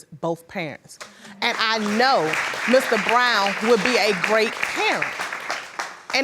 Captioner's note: applauding